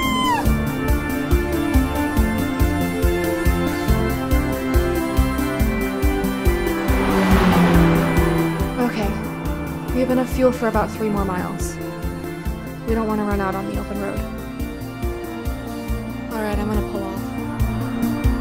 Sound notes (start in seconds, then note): 0.2 intense music; 6.7 engine revving